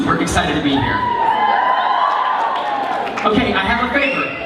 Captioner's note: applause